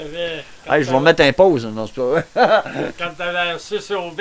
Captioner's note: laugh